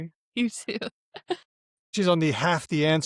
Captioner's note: chuckles